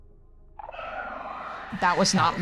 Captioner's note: shrieker noise